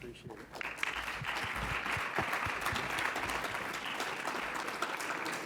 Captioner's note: congregation clapping